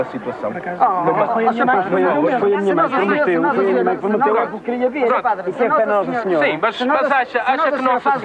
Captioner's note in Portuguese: discussão entre todos